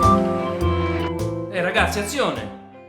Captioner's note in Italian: Voce dalla regia